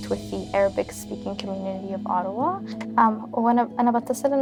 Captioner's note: speaking Arabic